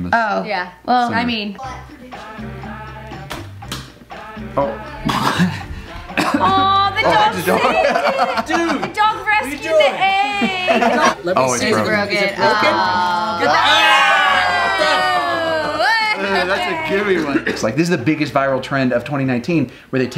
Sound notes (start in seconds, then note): 1.9 egg splats; 1.9 happy music; 5.0 laughs; 12.2 group groans